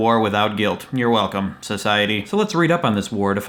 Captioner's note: insincerely